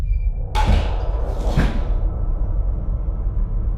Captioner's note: loud thud